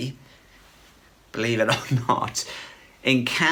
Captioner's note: chuckles